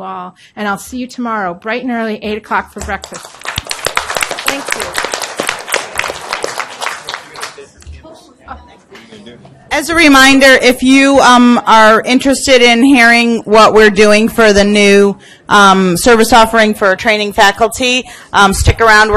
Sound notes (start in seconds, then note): 3.0 audience applauds